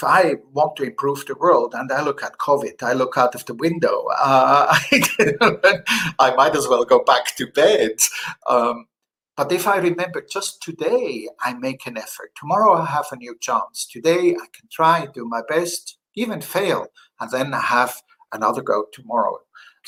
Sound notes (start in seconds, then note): 4.6 laughter